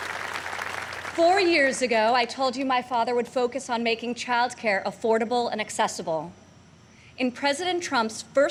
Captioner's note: applause